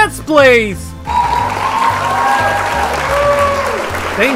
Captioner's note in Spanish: aplausos